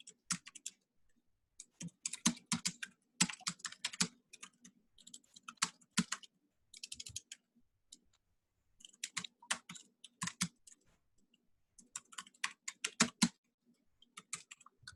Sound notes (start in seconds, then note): 4.8 keyboard clatters